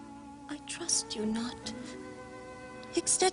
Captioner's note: Sottovoce